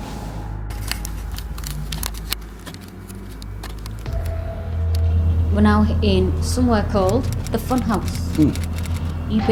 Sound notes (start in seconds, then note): 1.0 equipment shuffling